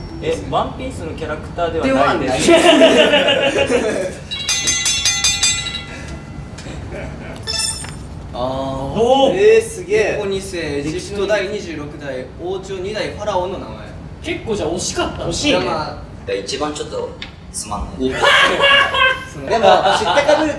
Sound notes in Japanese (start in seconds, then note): 2.3 笑い声; 18.1 爆笑